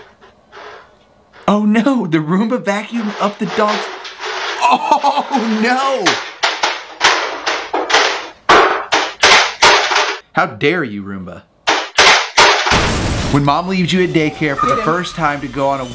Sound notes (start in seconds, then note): 5.3 Roomba slamming on stairs; 12.7 large explosion